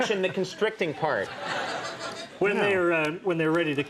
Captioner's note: audience laughs